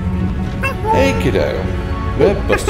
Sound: ape noises

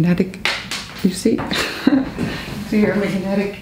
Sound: giggles

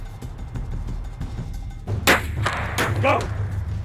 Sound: gun clicks

